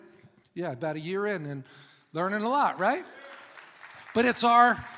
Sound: congregation applauding

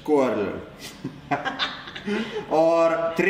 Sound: cackles

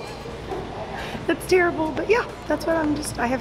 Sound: chuckles

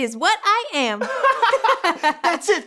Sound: giggles

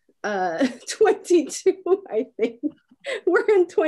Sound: laughs

